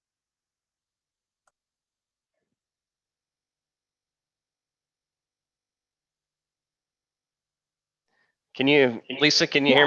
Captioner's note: silence